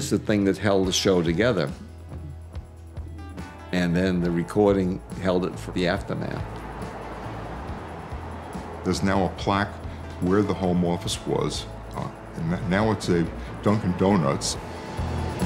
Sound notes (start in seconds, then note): 6.6 crowd cheering